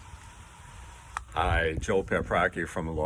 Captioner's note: water flowing from hose